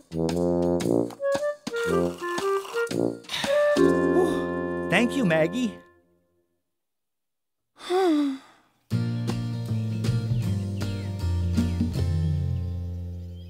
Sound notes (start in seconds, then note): 1.7 slurping; 7.0 groan of exasperation